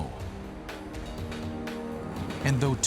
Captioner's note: swoosh